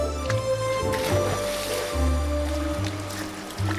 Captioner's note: water splashing